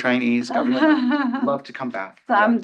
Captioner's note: chuckling